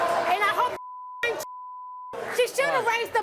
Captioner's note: beep